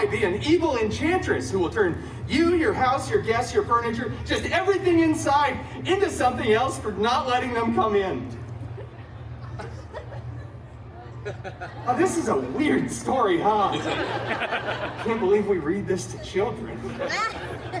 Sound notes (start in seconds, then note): 8.5 guests chuckling; 14.3 guests laughing